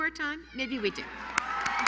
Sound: applause

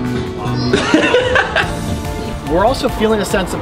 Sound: laugh

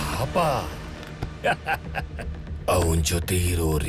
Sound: villainous laughter

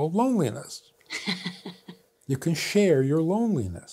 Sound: laughs

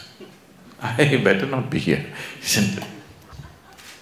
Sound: laughs

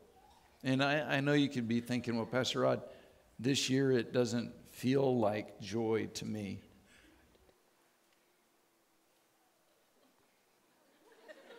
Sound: silence

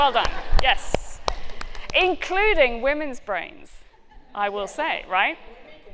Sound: clapping

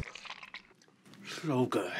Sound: customer breathing heavily; mayo squelching

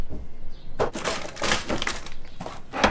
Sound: shoves things around noisily

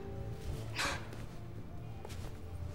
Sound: sighing

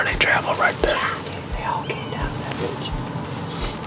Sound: whispering

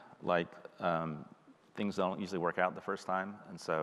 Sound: none

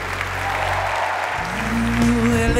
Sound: audience clapping

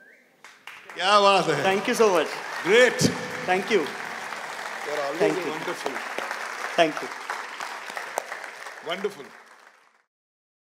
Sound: applause

